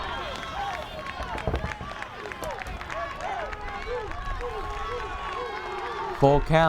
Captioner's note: crowd cheering and clapping rhythmically